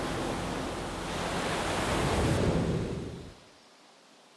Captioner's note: nature sounds